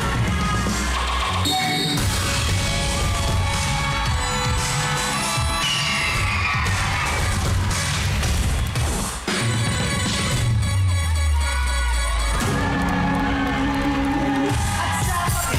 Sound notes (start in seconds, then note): 3.1 audience cheering; 13.3 audience cheering, applauding